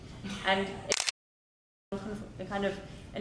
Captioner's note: camera clicks